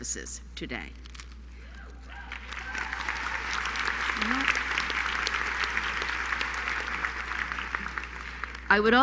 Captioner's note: applause